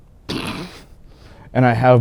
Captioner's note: laughs